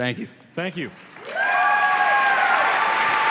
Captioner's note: applause